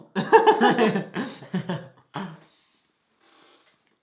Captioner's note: both laugh